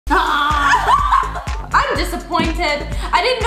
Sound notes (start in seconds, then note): 0.1 yells